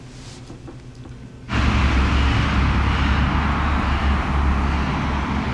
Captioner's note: traffic noise